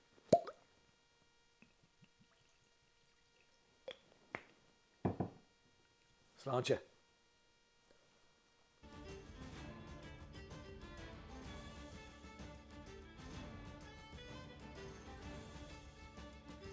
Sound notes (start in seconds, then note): 0.2 cork pops; 2.0 whiskey sloshes; 3.8 cork clicks; 5.0 bottle taps; 8.9 irish music playing